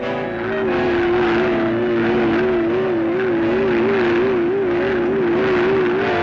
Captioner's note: machine whirring; soft ominous music